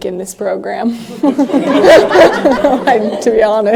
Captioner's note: laughs